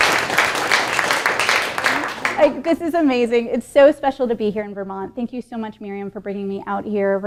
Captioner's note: applause